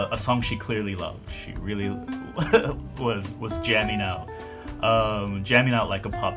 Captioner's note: laughs